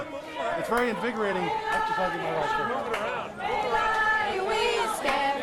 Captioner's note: chanting